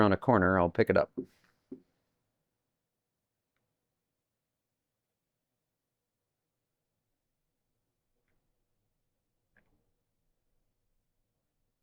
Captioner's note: silence